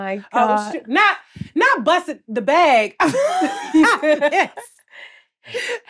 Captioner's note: laughs